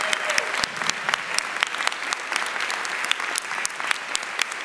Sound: audience applauding

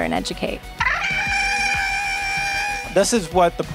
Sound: Porg yell

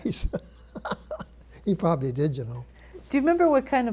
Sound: laughs

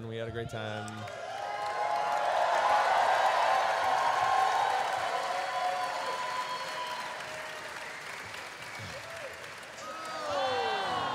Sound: cheering

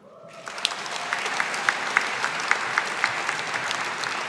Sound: audience applauding

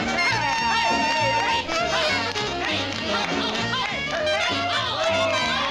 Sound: cheering

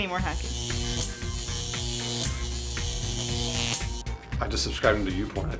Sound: electronic buzzing

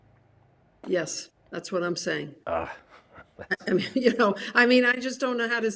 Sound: chuckles

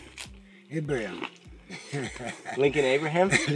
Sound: laughs

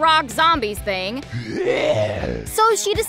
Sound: zombie grunting

